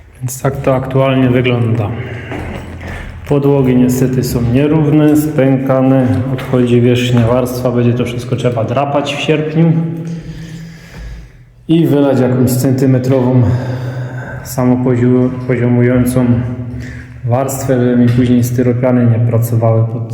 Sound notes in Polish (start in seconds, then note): 13.2 wciągnięcie powietrza; 13.4 westchnienie